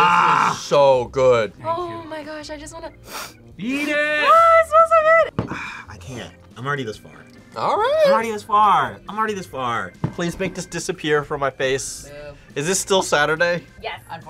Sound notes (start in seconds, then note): 3.0 sniffs; 5.4 sighs